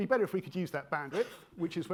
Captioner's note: attendee coughing